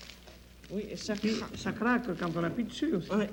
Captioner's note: conversing in French